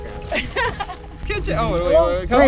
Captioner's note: laughs